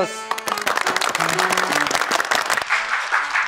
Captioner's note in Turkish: alkış